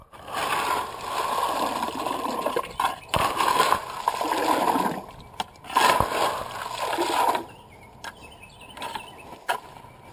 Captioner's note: gravel plopping in water